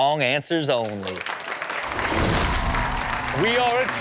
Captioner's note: audience applauds and cheers